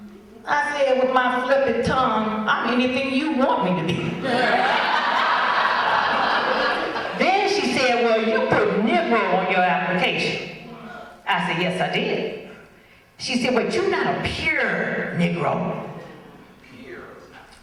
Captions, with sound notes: I said with my flippant tongue, “I can be anything you want me to be." (audience laughs) Then she said, “Well, you put ‘negro’ on your application.” I said, “Yes, I did.” She said, “Well, you’re not a pure negro?”